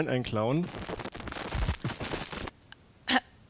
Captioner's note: static; awkward cough